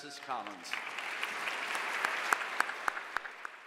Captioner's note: applause